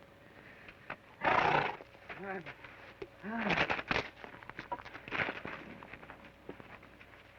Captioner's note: horse snorts; Joshua grunts